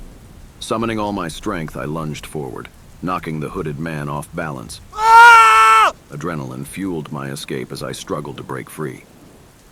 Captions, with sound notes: Summoning all my strength, I lunged forward, knocking the hooded man off balance. (SHOUTS) Adrenaline fueled my escape as I struggled to break free.